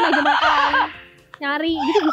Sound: chuckled

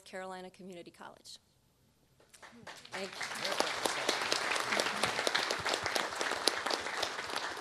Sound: applause

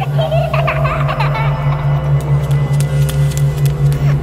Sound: child laughing

